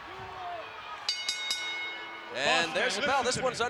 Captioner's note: ring bell dinging